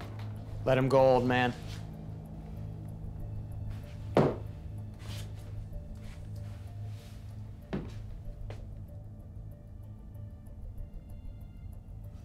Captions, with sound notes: Let him go, old man. [Adam's feet thump on the ground]